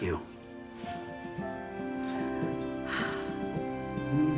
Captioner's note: sighing